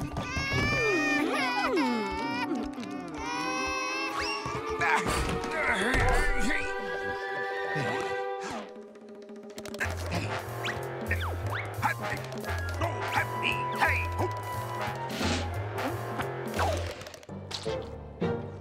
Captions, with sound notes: [crying] [grunting] Oh! Hah! Hee! hah!